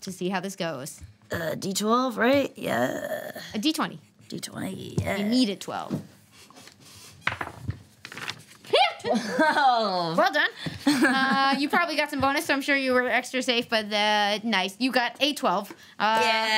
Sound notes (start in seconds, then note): 8.7 laughs